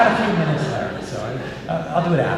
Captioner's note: audience Laugh